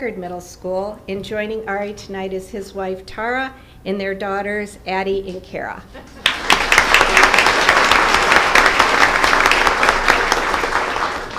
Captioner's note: applause